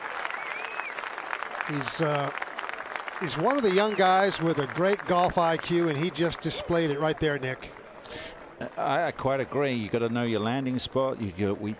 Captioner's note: cheers and applause